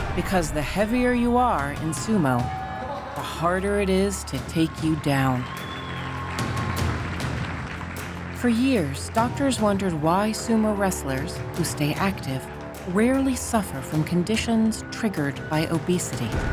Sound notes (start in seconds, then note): 5.5 audience cheering